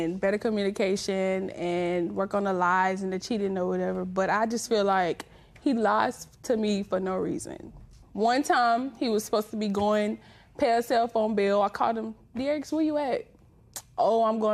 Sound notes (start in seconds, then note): none